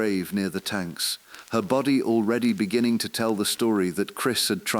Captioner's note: exhale; voice trembling